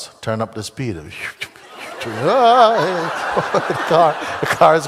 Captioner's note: laughter